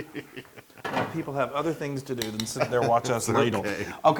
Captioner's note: laugh